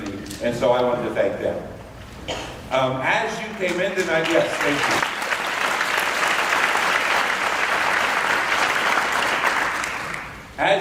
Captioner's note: applause